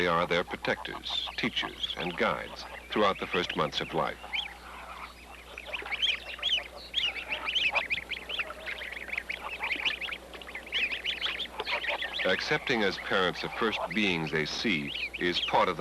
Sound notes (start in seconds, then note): 4.6 chirping